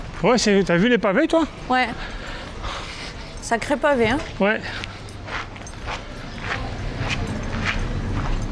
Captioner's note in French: halètement